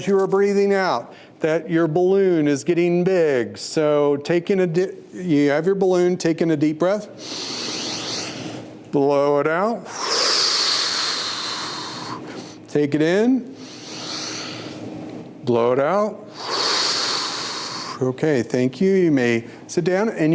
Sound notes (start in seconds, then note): 7.1 inhales; 9.8 exhales; 13.5 inhales; 16.2 exhales